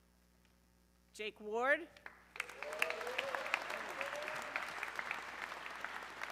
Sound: audience cheering

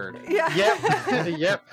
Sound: laughing

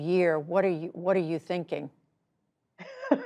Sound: laughter

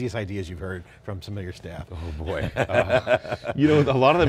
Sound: laughing

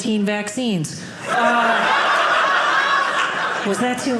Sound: audience laughing

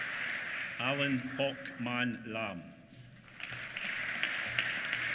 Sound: applause

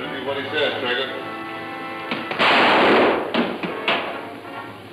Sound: gun roars

